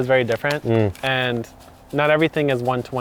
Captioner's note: hums